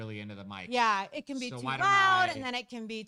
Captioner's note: mumbles